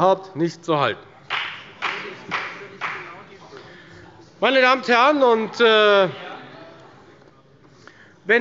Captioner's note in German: Beifall bei der FDP